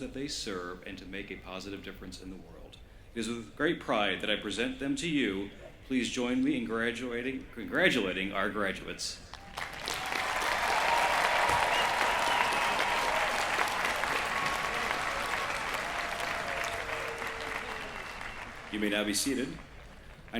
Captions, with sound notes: that they serve and to make a positive difference in the world. It is with great pride that I present them to you. Please join me in congratulating our graduates. [CHEERING] You may now be seated.